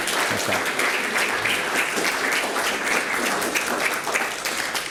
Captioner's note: applause